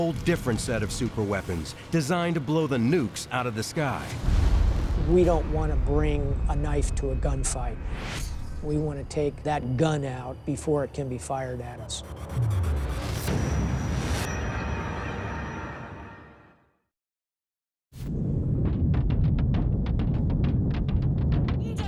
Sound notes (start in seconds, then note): 12.8 booming; 18.1 booming; 21.7 speaking in a foreign language